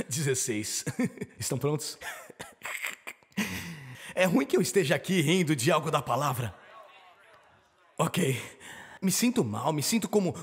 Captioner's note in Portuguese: risadas